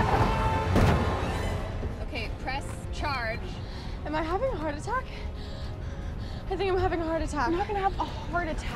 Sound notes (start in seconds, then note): 5.1 breathing heavily